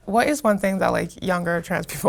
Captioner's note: none